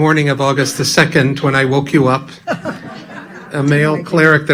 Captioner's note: laughing